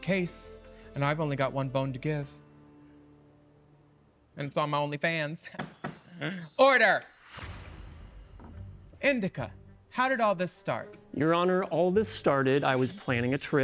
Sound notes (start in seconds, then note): 5.0 gavel tapping; 5.7 mystical music